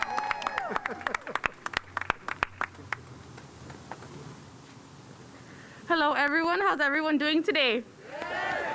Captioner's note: cheers and applause